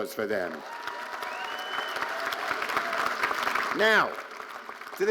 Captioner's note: audience cheering and applauding